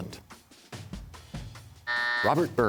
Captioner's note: buzzer sounds